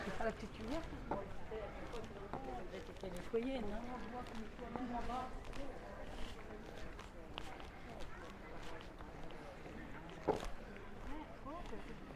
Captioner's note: background chatter